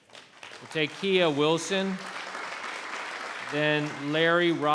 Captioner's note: applauding